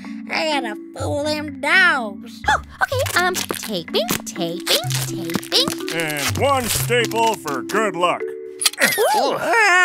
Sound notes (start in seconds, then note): 4.5 soundbite of duct tape ripping; 9.1 soundbite of stapler